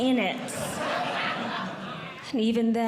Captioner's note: audience Laughing